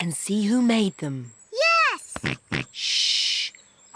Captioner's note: snorts